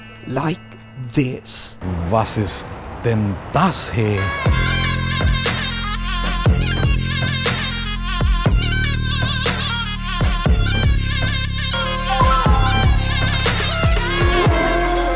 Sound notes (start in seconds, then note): 1.8 speaking German